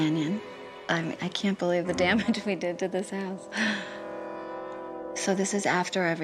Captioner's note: chuckling